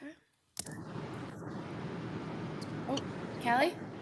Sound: audio hissing

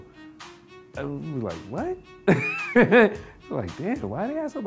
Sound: laughing

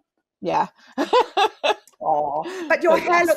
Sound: laughs

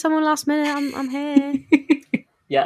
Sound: laughs

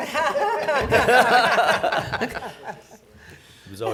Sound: laughing

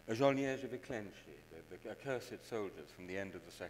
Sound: speaks in foreign language

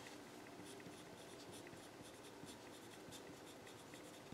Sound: pen scribbles

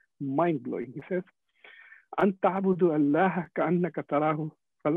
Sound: speaking foreign Language

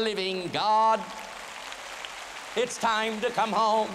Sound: applause

